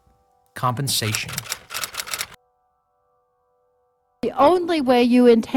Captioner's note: typewriter keys clicking